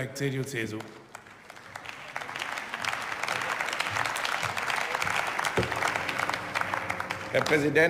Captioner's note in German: Beifall